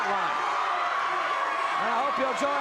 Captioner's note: audience cheers